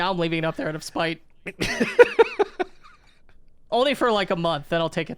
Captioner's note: laughing